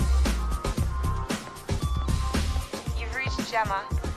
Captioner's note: phone beeps